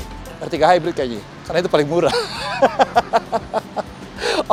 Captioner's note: laughing